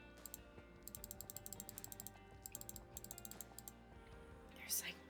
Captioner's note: aggressive clicking